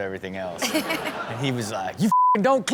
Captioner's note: audience chuckles; beep